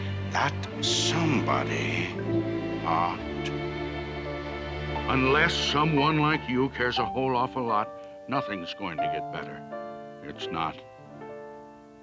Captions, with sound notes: That somebody ought [IN NORMAL VOICE] Unless someone like you... ...cares a whole awful lot... ...nothing is going to get better. It's not.